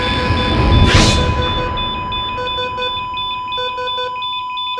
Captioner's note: machines beeping